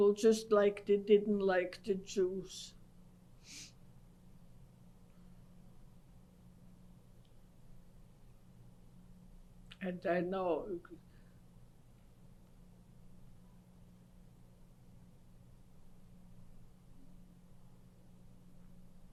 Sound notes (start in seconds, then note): 2.6 pauses for 7 seconds; 10.6 pauses for 10 seconds